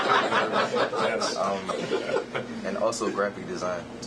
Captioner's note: laughter